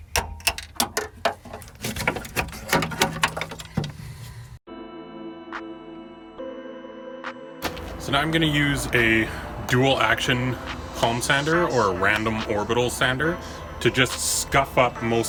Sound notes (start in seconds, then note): 2.5 banging